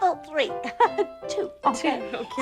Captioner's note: laughs